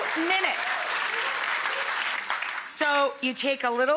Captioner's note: audience clapping